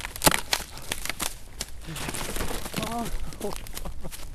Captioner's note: underbrush crunching; panting